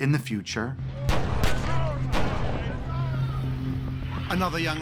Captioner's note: gun firing, people shouting